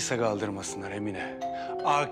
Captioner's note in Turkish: Zil Çalıyor